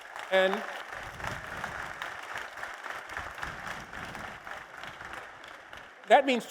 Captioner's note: applause